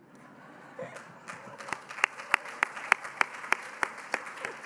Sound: applause

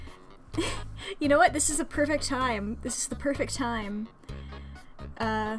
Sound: giggles

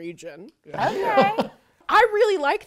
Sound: chuckles

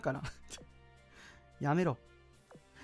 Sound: laughs

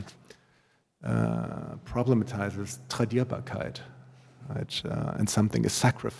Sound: german

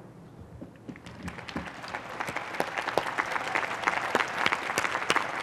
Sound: applause

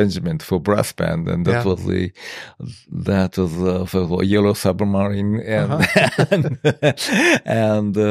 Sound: laughs

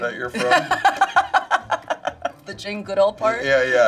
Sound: Charlize laughs

